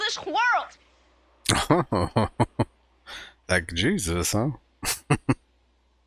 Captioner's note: chuckling